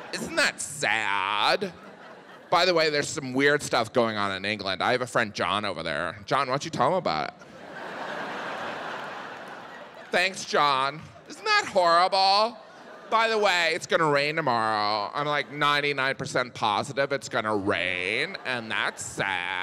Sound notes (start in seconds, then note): 7.4 audience laughing